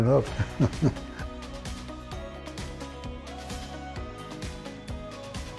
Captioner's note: laughter